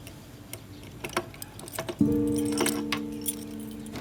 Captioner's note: unlocking the door